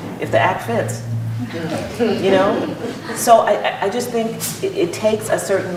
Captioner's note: laughter